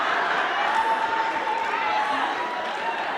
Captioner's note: crowd laughing; crowd cheering; crowd clapping